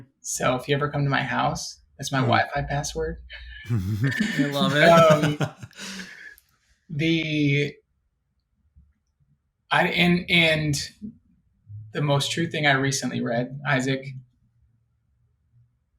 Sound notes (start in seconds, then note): 3.6 laughing